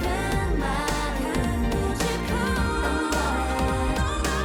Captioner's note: poof